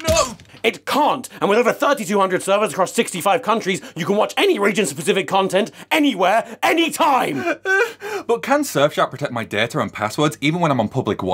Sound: whack; cries

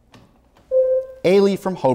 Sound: buzzer sounds

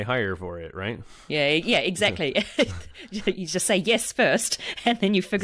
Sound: laughs

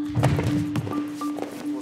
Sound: thump

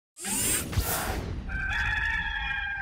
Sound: whooshing; cock crows

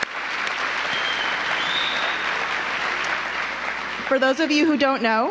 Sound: applause

